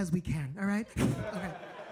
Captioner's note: blowing; audience laughing